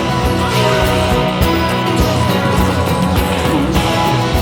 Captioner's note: people grunting